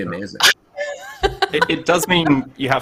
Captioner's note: laughs